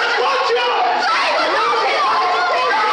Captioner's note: women are shrieking